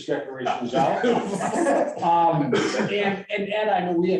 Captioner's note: all laughing